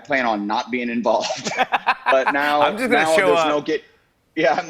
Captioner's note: laughs